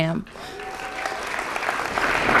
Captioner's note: applause